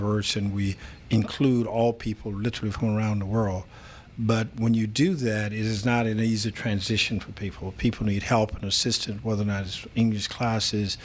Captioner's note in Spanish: Habla en ingl\s